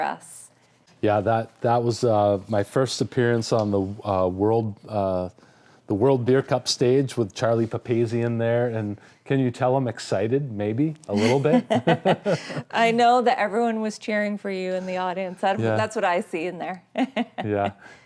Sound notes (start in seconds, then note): 11.1 both laughing; 17.1 laughing